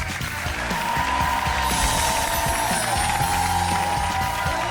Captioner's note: audience cheering